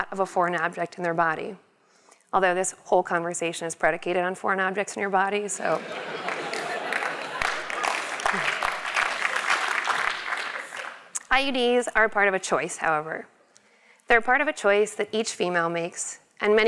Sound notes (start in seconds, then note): 5.6 laugh; 5.7 applause